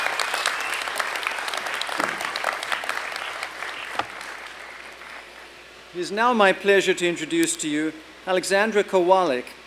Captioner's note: applause